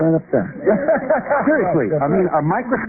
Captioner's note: laughter